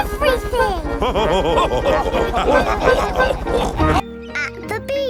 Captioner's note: chuckles; all laughing